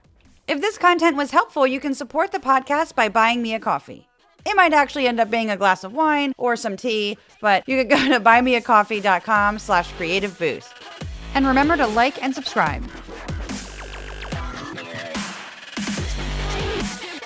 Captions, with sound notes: If this content was helpful support the podcast by buying me a coffee. It might actually end up being a glass of wine or some tea but you [ laugh ] could go to buymeacoffee.com/creativeboost